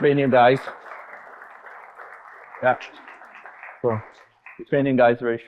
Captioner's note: audience applauding